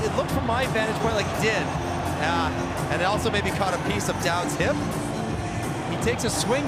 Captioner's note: cheering and Applause